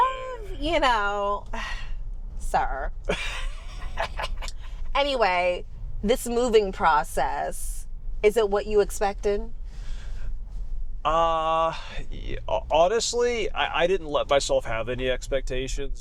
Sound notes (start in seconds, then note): 3.1 laughs